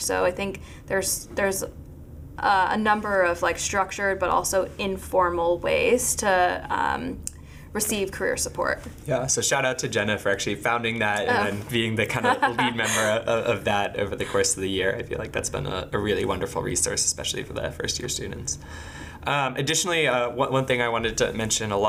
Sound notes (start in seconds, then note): 12.1 laughing